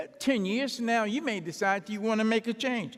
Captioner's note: none